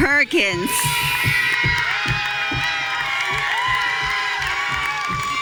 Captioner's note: audience cheering